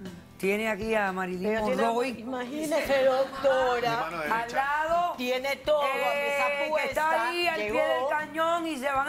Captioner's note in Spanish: Risas